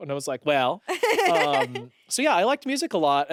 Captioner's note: laughs